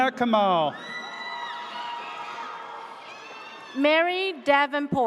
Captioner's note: audience cheers